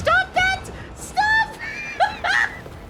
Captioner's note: falsetto